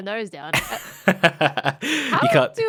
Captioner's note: laughs